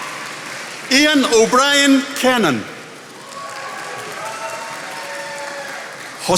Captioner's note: attendees applauding